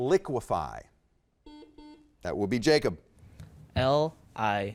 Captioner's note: buzzer beeps